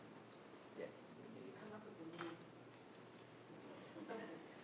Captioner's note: speaking quietly